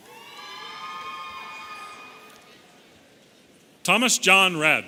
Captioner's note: audience cheering